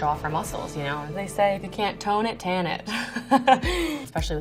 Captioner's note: laughs